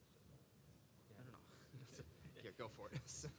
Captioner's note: laugh